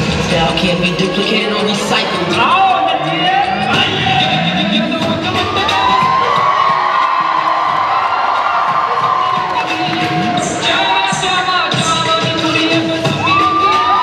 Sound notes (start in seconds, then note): 5.3 cheers